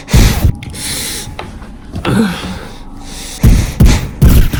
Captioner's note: gunshot, blood splatters; heavy breathing; gunfire, blood splatters; distant gunfire